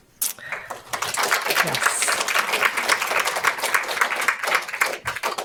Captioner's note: audience applauds